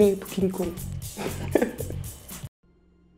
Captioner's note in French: rires